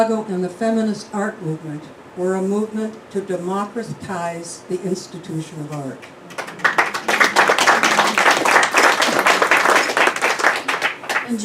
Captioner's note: clapping